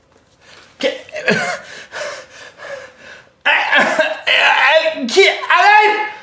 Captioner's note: Riz'shar breathes heavily, stammers